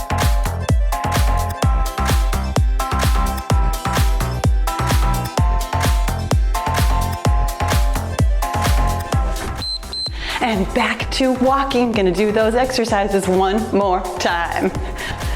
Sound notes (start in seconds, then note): 9.5 timer beeps